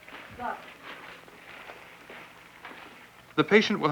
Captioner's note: rustling